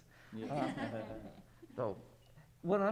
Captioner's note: audience laughs